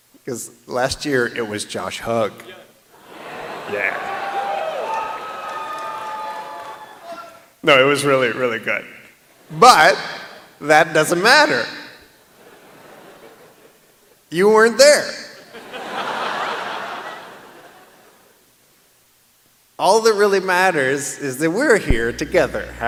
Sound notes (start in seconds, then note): 3.0 laughter; 3.0 cheering; 15.4 laughter